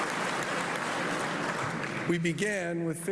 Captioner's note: applause